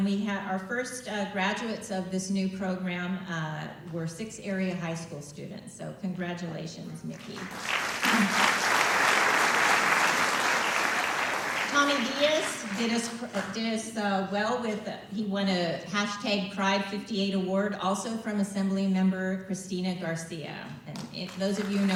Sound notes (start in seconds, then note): 9.5 applause